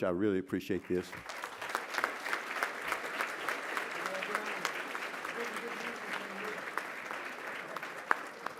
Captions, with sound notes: I really appreciate this. [applause]